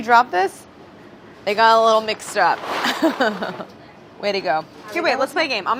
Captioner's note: laughs